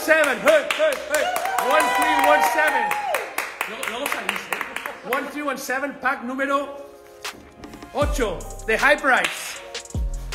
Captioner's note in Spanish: Cheering